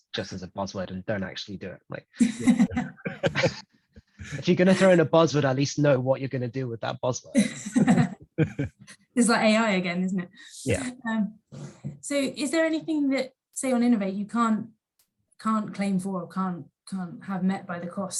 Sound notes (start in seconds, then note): 2.2 both laugh; 7.4 group laughs